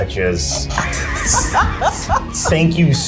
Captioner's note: laugh